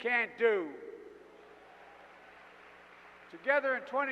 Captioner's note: applause